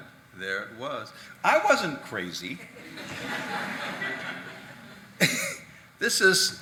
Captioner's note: audience laughing